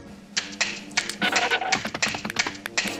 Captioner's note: claws clacking